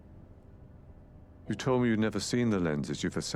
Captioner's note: voiceover